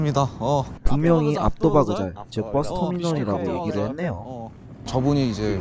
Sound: in kazakh

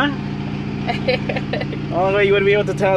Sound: laughs

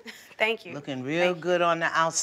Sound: laughs

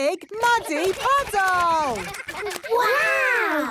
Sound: splashing

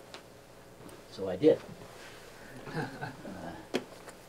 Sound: laughing

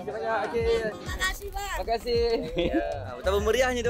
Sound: laugh

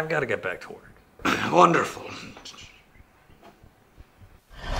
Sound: throat clear

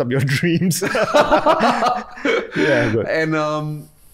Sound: both laugh

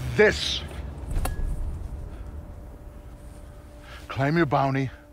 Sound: helmet klinks

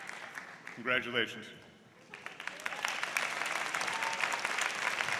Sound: applause

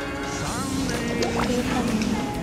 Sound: nom nom

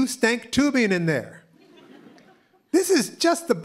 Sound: laughter

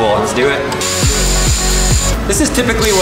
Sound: drilling; upbeat electronic music

